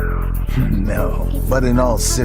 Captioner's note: chuckle